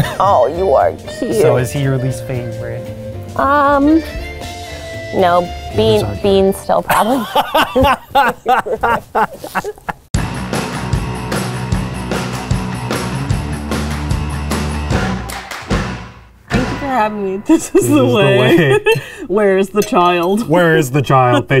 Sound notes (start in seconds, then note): 6.9 laughing; 10.2 upbeat music